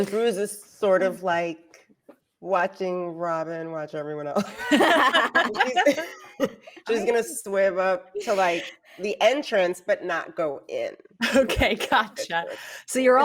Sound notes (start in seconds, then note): 4.5 everyone laughs